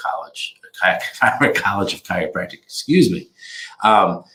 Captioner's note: laughs